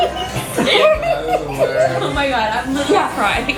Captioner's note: giggling